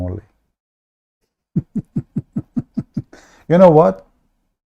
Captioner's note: Ketawa